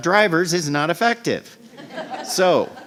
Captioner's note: laughter